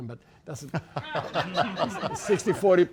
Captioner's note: laughter